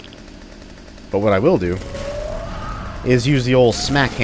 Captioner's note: Smackie roars, Trash Hags howling